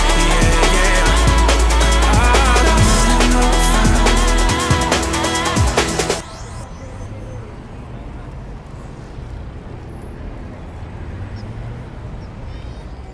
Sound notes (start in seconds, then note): 5.8 music fades; 10.1 traffic hums